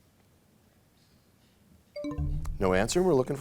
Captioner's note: bell chimes, time expires